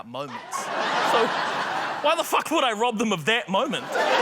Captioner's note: laughter; laughter